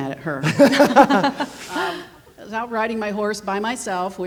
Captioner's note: laughing